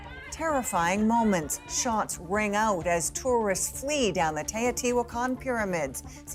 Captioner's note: speaking alternate language